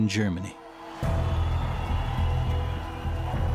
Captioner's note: sounds of cheering